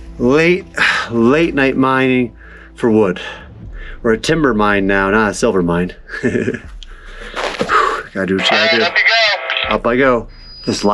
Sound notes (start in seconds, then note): 6.1 laughs; 9.2 man on Radio